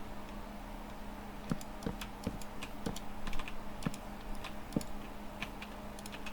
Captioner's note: typing